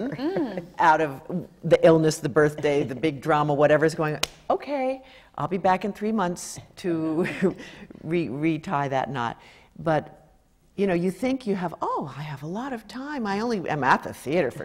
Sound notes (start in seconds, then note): 4.2 clap